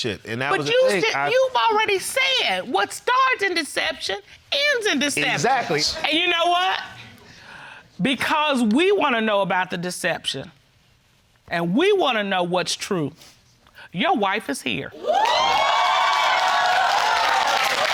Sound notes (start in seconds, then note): 14.9 audience cheering